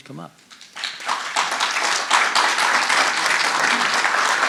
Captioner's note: audience applauding